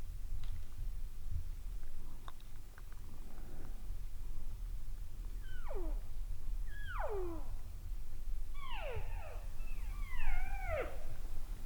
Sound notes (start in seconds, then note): 4.9 caller cow calling